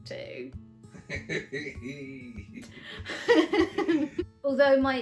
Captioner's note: laughs